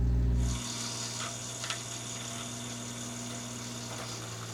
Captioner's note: machine drilling